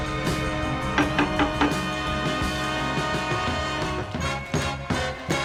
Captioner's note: knocking on door